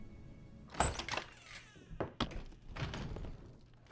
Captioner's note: door thudding